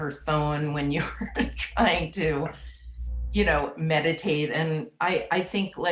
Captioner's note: laughs